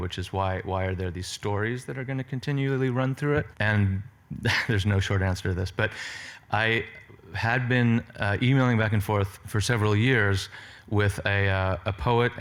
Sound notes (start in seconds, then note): 4.4 laughs